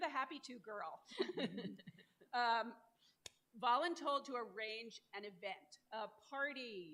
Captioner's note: laughter